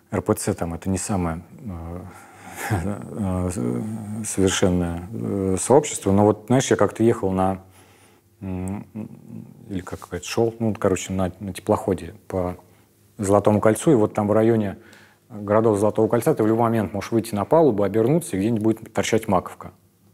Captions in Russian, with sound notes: РПЦ — это не самая… (усмехается) …не самое совершенное сообщество, но вот знаешь, я как-то ехал на… или как говорят, шел на теплоходе по Золотому кольцу, и вот там в районе городов золотого кольца ты в любой момент можешь выйти на палубу, обернуться, и где-нибудь будет торчать маковка.